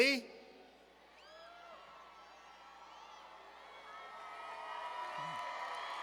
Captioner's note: cheers